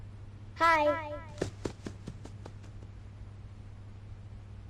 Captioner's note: running footsteps